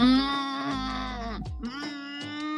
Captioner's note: groans